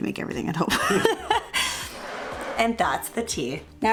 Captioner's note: both laughing